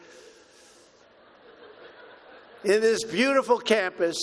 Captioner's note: laughter